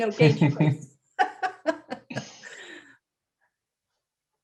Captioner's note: laughter